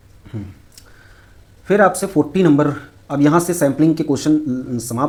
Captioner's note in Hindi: गला साफ़ करने की आवाज़